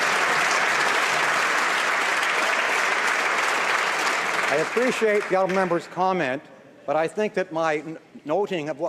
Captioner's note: some Applause